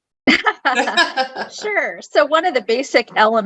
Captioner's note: laughing